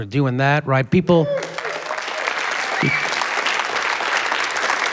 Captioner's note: cheering, applause